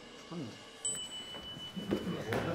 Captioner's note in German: Glöckchenklingeln